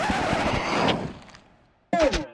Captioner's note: needle scratches across record